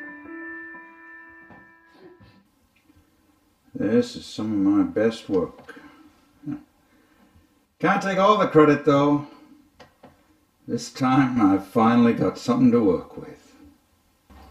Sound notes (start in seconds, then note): 0.0 piano music playing; 1.9 sobbing; 7.0 scoff